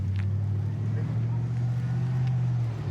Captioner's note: truck driving